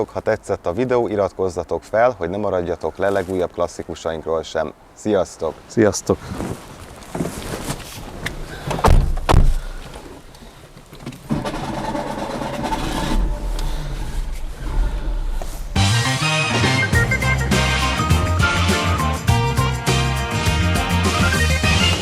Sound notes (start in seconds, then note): 7.2 engine turns on and revs; 15.7 theme tune playing